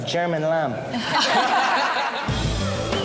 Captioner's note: laughing